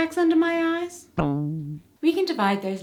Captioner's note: boing sfx